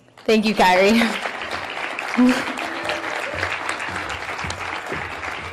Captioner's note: audience clapping